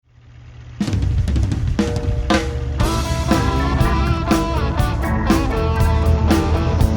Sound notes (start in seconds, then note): 0.1 truck engine rumbling; 0.8 upbeat drumming; 2.1 lively electric guitar music